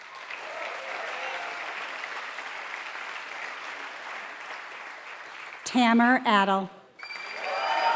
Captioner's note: applause